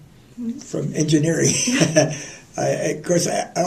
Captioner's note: laughter